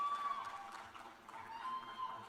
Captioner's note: cheers and applause